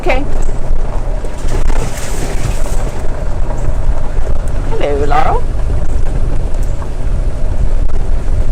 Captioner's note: vibrations